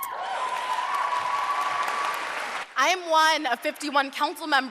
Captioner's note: cheers and applause